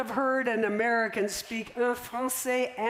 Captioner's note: french